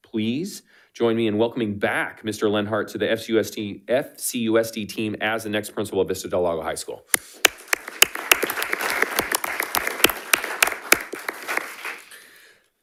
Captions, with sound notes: Please join me in welcoming back, Mr. Leonhardt to the FCUSD team as the next principal of Vista del Lago High School. (attendees applauding)